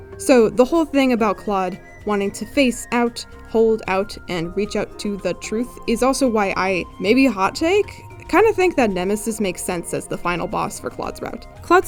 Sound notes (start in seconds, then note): none